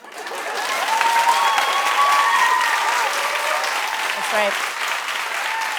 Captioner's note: cheers and applause